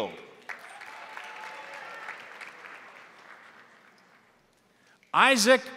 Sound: crowd applauding; crowd cheering

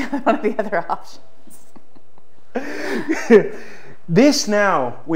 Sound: both laugh

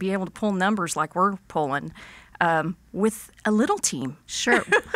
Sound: laughs

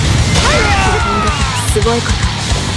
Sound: fatal scream

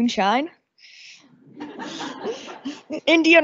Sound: audience laughing

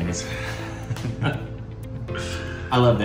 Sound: laughing

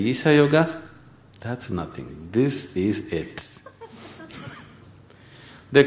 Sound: laughter

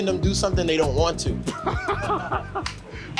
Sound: laughs

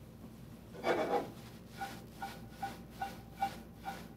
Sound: pan sliding

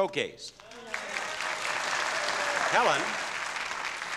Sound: audience clapping and cheering

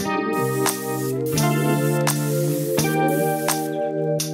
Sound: spray painter sizzles

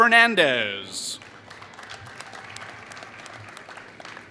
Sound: applause

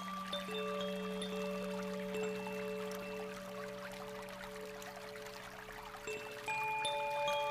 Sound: bells lightly chiming; water babbling

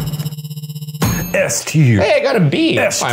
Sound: graphics thudding; graphics ding

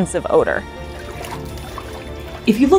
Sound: background music; water splashing sounds

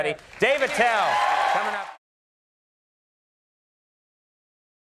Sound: audience cheering

